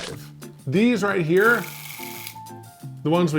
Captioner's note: device clicking